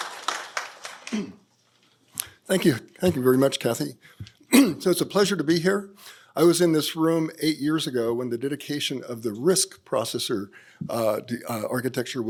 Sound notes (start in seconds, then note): 4.5 clears throat